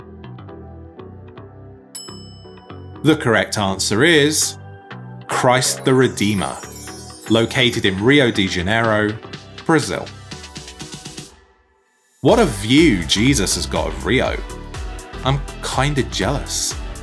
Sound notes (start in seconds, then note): 1.9 bell clinking